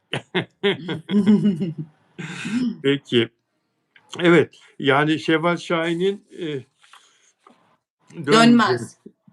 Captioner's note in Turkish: kahkaha